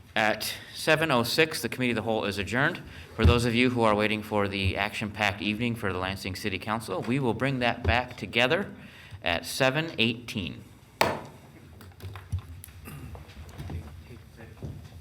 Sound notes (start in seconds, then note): 11.0 gavel thuds